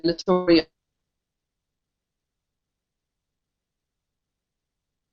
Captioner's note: no audio